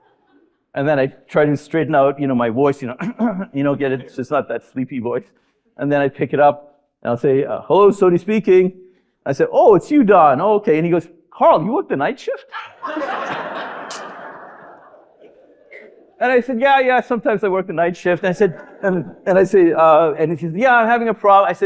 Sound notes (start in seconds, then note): 3.0 clears throat; 12.6 audience laughing